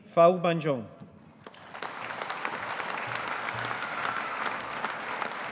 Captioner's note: audience applauding